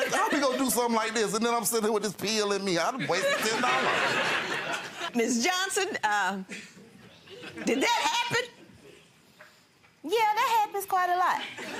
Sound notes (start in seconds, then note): 3.0 audience laughs